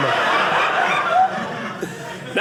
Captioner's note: audience laughing